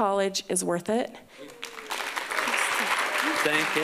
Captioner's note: applause